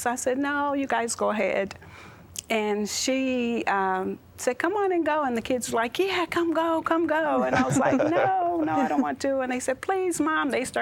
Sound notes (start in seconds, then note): 7.4 laughing